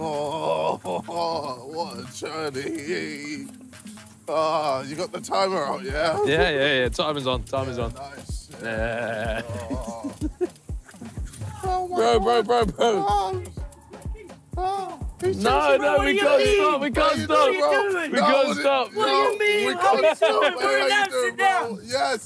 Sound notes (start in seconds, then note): 0.0 groaning; 10.9 laughing; 13.8 fan yelling